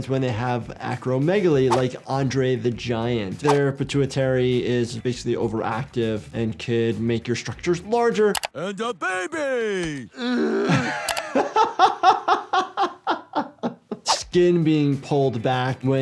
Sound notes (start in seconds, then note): 9.0 Stewie groaning; 10.6 laughing